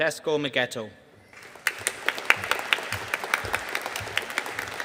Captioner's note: audience applauding